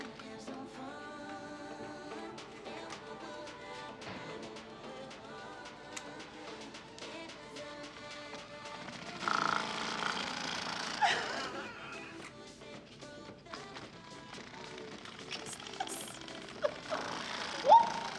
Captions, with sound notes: *vibrator starts* *laughs nervously* The fuck is this? Oop!